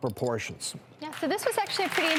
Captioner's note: applause